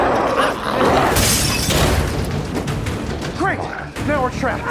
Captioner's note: Smelly roars; glass shatters